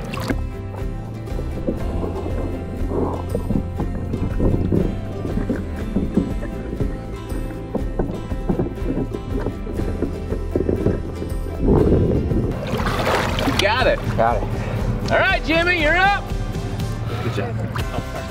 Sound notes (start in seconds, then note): 0.1 water splashes; 13.0 water splashes